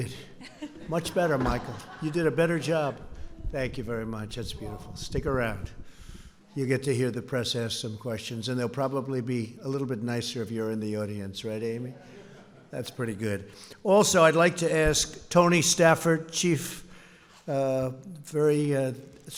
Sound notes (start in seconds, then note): 0.4 laughter; 11.9 laughter